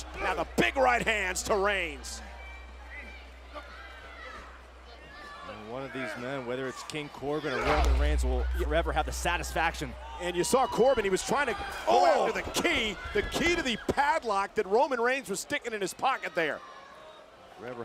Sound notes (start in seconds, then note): 3.2 crowd shouting